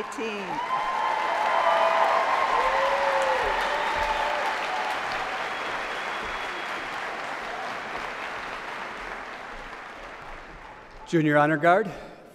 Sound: cheers and applause

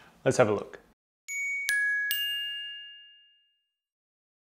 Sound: bubbly chime

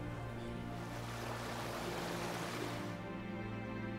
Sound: wave crashes

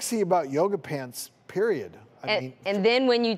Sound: none

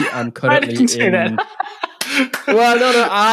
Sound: laughs

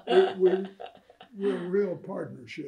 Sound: laughter

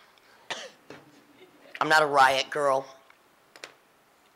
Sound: laughing

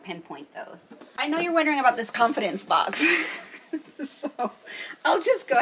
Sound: laughs

